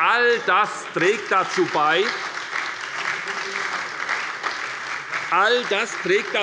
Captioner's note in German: Beifall bei der SPD